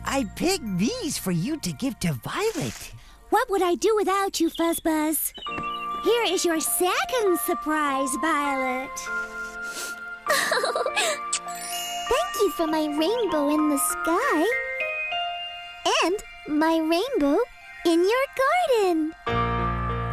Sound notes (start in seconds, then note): 10.2 giggling